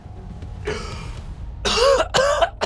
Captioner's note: gasping; coughing